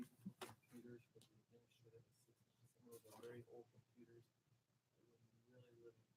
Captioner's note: speaking faintly